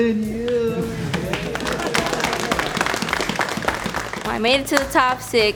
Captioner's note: applause